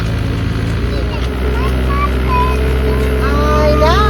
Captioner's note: baby babbling